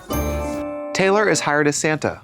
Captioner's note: bright chime